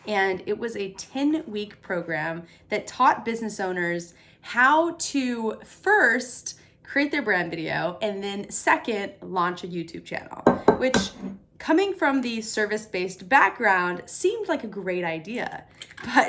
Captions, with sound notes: and it was a 10-week program that taught business owners how to, first, create their brand video, and then second, lanch a YouTube channel. (dishes clattering) Which, coming from the service-based background, seemed like a great idea.